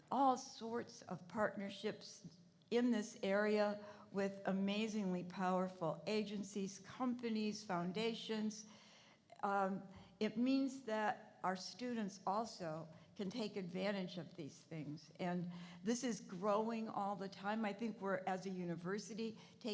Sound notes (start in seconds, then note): none